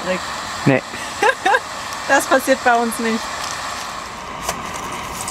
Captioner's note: laughter